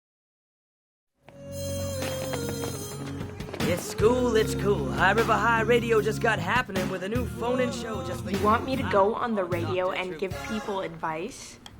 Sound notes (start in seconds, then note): 1.3 calm music; 1.5 bell ringing